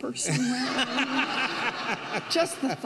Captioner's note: audience laughing